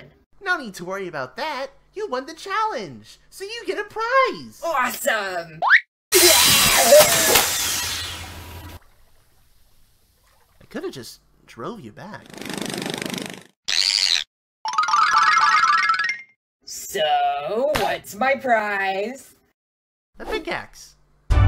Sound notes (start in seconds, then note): 6.1 Fireball screams as she dies